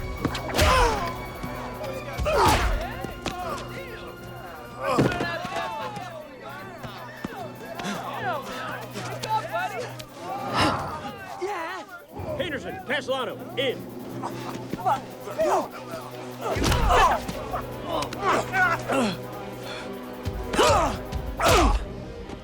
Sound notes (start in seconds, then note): 0.2 Knox grunting; 7.0 tense music continues; 8.3 soldiers cheering; 16.8 Dalton grunts